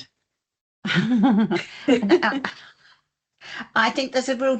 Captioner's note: laughing